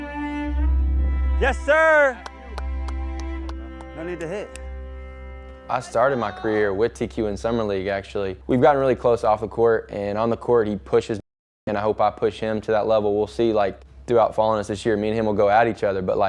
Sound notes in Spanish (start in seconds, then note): 1.7 espectador aplaude